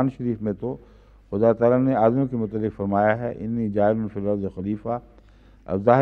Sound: Arabic

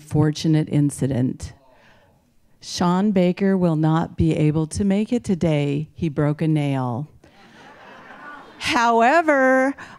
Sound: laughing

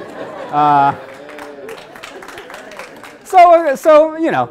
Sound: audience laughs; audience claps

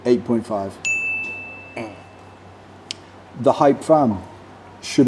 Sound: bell dings

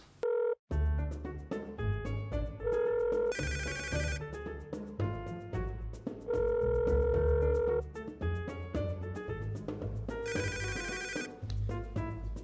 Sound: phone ringing funny

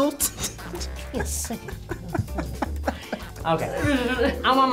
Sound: laughs

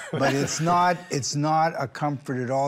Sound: all chuckle

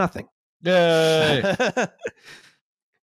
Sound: laughs

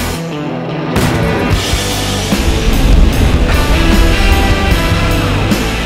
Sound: blasting sound; hardrock music

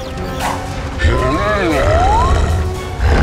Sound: grunting

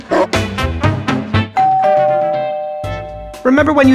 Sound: doorbell rings

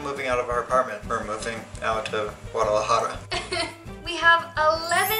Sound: crying

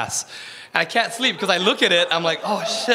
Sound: audience laughs

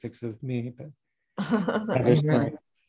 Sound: laughing

